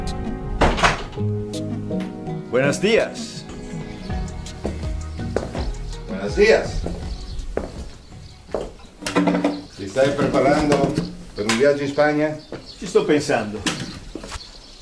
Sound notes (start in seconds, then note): 1.9 door makes noise; 6.9 footsteps, noisy chair scraping